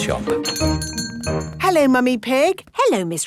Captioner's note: doorbell chiming